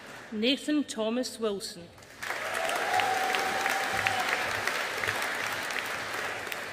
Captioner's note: audience applauding